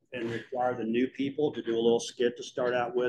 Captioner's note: laughter